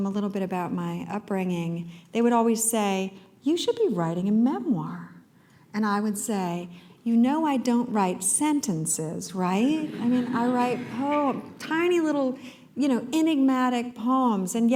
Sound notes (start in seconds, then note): 9.8 laughter